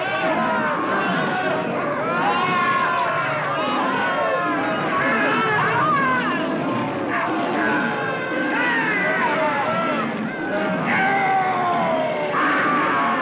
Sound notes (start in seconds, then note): 0.1 roaring; 4.9 screaming